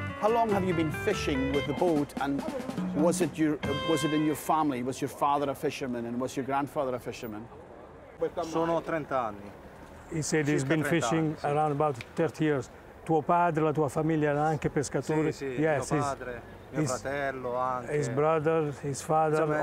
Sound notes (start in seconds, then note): 8.3 speaking Italian; 12.9 speaking Italian